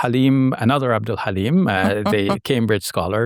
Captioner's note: chuckling